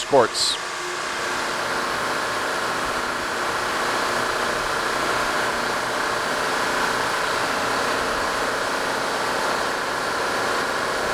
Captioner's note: machine noise